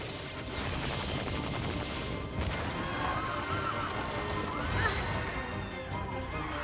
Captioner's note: explosion and screams